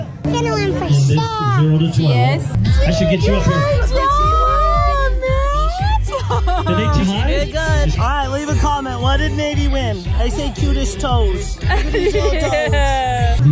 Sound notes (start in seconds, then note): 6.0 laughter